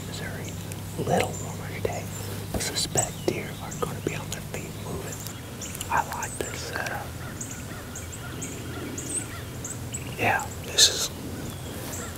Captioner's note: whispering